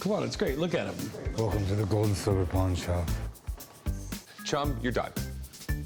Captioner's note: batman voice; batman voice